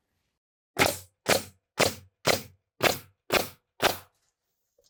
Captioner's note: power tool shooting